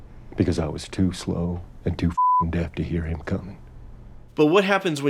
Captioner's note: beeping